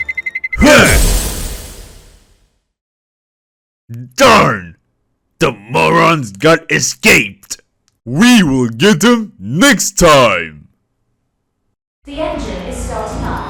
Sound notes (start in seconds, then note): 0.8 ice explosion